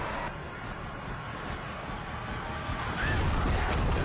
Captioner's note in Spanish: horda chillando